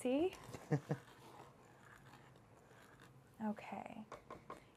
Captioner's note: laughs